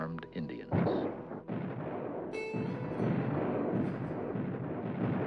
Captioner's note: guns firing